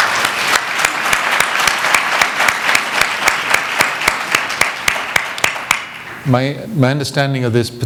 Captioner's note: applause